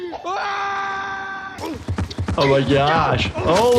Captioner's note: scream of fear